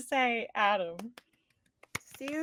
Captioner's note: cast applauding